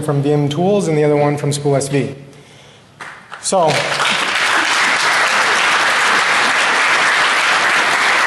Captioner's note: applause